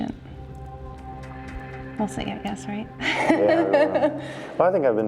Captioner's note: laughs